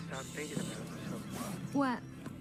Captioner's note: people chattering distantly